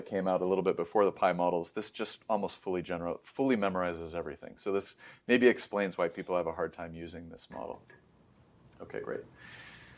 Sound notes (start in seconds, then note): 7.6 clanking noises; 9.3 inhales